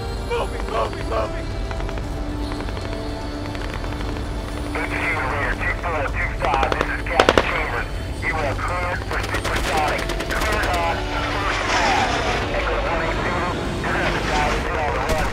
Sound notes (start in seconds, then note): 1.7 guns firing; 9.0 guns firing; 9.7 radio chattering